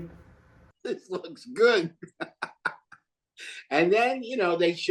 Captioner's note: laughs